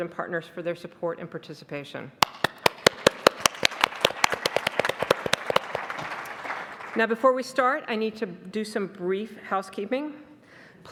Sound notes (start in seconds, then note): 2.2 clapping; 2.4 audience applauding